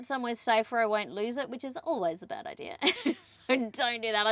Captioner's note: laughing